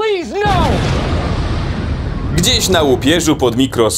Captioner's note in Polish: boom!